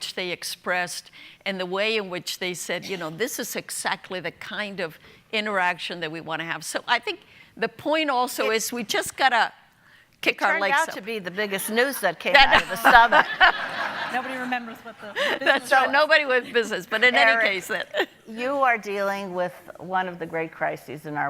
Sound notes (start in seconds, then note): 12.3 audience laughing